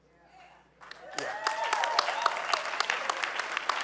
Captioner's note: audience cheering